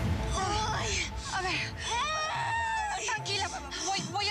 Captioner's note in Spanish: quejidos y gritos